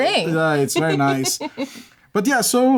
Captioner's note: laughter